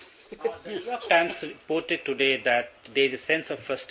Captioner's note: laughter